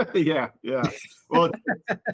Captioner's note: laughing